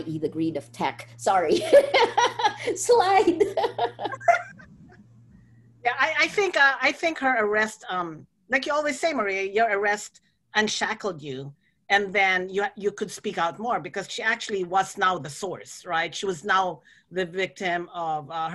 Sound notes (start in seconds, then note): 1.6 laughter